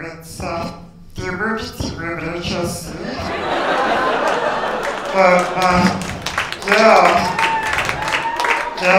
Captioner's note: laughter